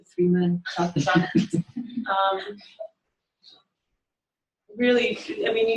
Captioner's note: laughter